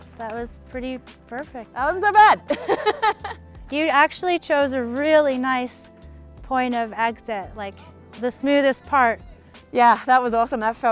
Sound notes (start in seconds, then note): 2.5 laughs